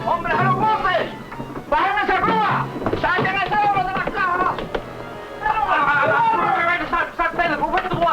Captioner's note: speaking spanish